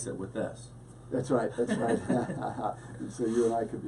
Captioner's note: both laugh